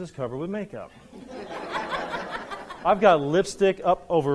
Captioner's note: audience laughs